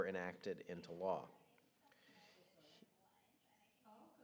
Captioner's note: audience chattering